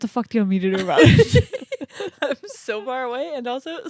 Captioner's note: laugh